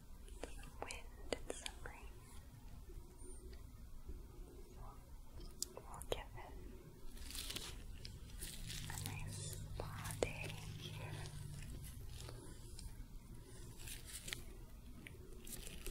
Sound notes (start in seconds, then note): 3.3 soft brushing; 12.4 soft brushing, sticky sounds